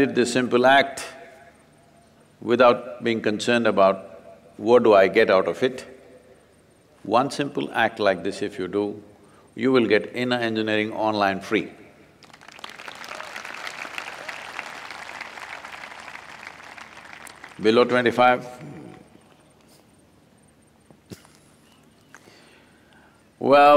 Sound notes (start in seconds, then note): 12.2 applause; 17.1 laughs